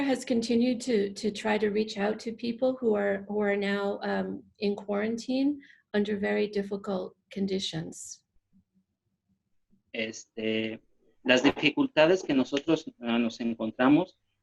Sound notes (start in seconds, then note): 10.6 speaking spanish